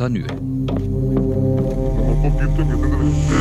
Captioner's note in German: spanisch, verzerrte Stimme